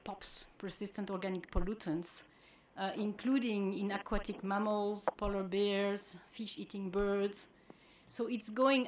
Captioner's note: POPs